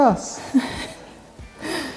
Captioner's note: laughing